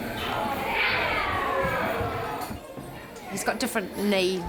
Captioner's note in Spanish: ruido de niños